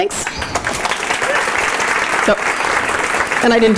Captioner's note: audience applauding